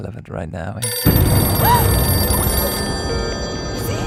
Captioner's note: skype and mobile phones ring